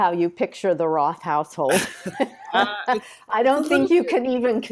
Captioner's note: both laughing